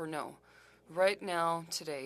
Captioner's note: speaking french